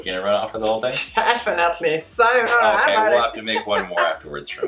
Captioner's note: laughs